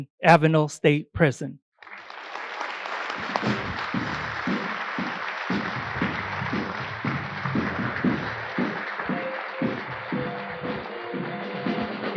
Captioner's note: applause